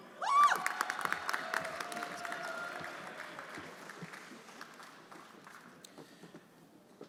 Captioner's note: friends cheering; everyone applauding